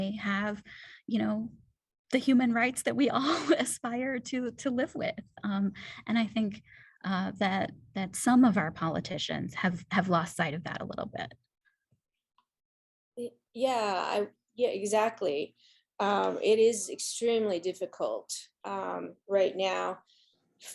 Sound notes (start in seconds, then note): 3.2 laughter